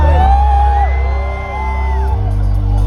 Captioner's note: crowd Cheering